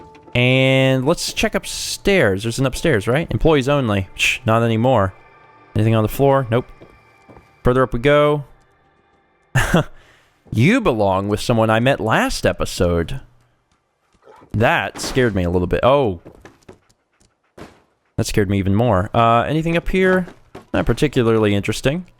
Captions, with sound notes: And...let's check upstairs. There's an upstairs, right? 'Employees only.' Psh! Not anymore! Anything on the floor? Nope. Further up we go! *chuckle* You belong with someone I met last episode! That scared me a little bit. Oh! That scared me even more! Uhh...anything up here? Not particularly interesting.